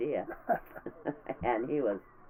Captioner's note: laughing